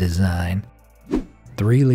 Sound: air whooshing

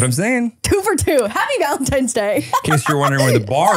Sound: laughs

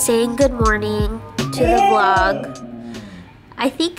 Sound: vocalizes again

